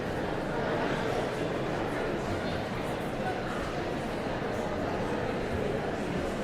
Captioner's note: audience chattering continues